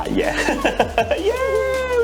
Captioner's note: laughing